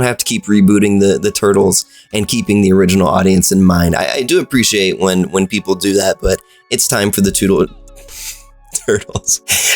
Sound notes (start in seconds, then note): 8.1 sigh